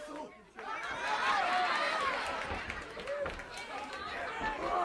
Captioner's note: crowd chatter